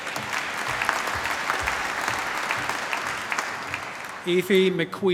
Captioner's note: cheering, applause